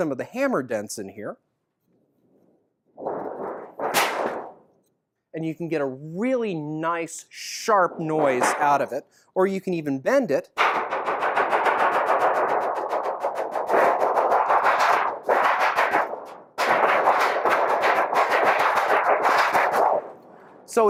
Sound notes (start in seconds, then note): 3.2 loud thunder strikes; 10.8 diminishing thunder strikes